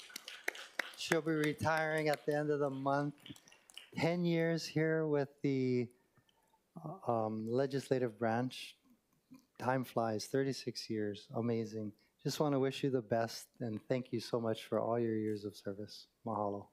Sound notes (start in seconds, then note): 4.1 applause